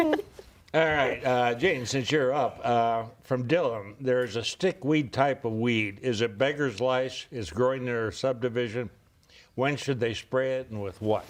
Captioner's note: laughter